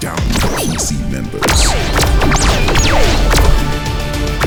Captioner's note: lasers firing